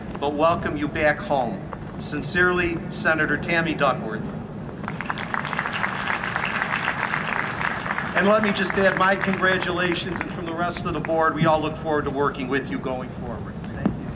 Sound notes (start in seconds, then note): 4.8 applause